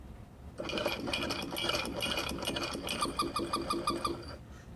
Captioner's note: rattling and clanking